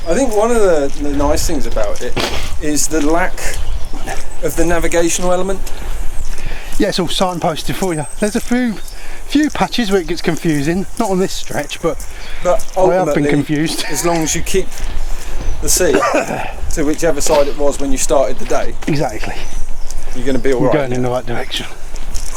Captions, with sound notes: I think one of the nice things about it is... the lack... of the navigational element Yeah, it's all signposted for you. There's a few few patches where it gets confusing not on this stretch but but i have been confused (laughs) But ultimately... ... as long as you keep... ..the sea to whichever side it was when you started the day... Exactly! You're going to be alright! You're going in the right direction